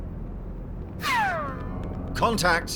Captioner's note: gunshot